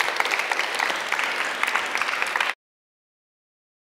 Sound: applause

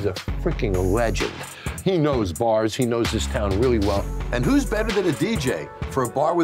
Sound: none

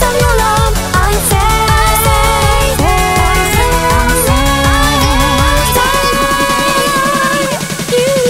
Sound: ahhh!

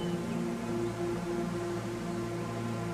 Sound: birds chirping

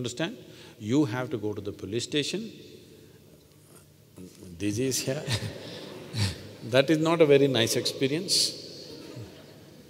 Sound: laughter; laughs

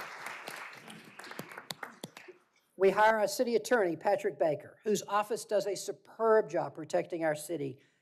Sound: applause

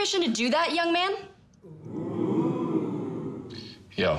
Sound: sitcom-style audience 'ooh's

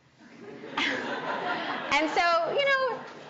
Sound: audience laughing

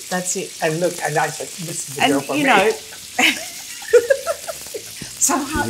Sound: laughs

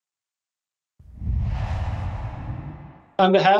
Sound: air whooshing

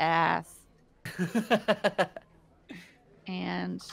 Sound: laughing

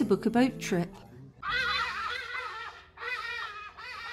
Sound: loud bird call

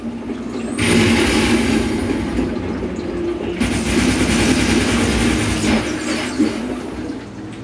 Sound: video game sounds playing

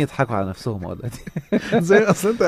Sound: laugh!

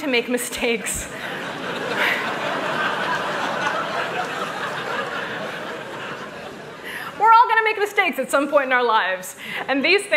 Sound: laughter

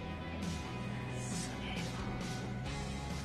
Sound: whispers

